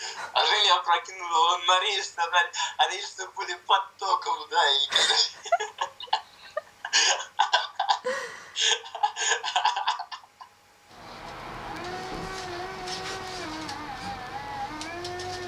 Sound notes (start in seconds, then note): 4.9 laugh